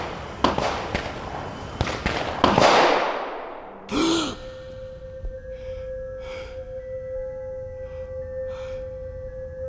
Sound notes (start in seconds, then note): 0.1 gunshots banging; 3.8 gasping; 6.8 ominous music